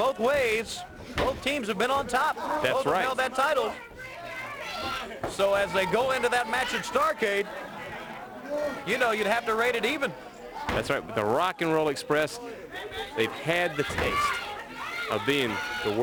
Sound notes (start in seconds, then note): 6.1 crowd chatter; 8.7 crowd chatter